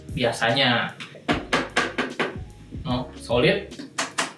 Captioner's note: knocking noises